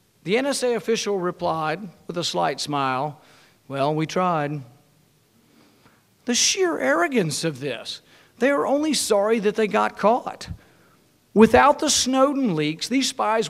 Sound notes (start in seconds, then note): none